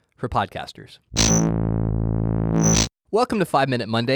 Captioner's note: logo buzzes